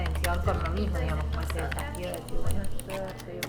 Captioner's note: talking, clicking